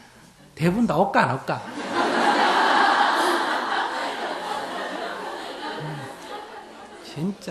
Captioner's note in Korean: 청중 웃음